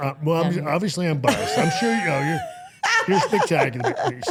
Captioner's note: interviewer laughing